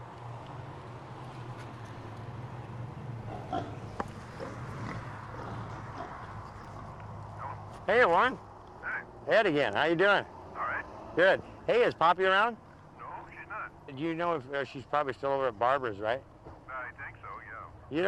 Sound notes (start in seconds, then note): 3.2 pigs grunt